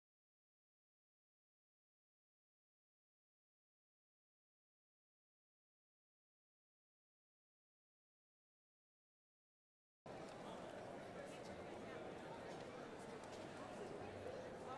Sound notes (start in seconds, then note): 10.1 indistinct chatters